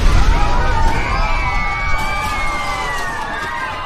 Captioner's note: passengers scream